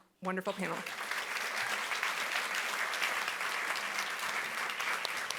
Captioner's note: audience applauding